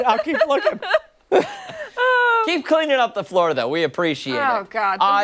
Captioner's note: laughter